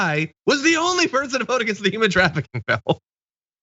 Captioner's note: laugh